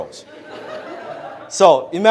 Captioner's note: audience laughs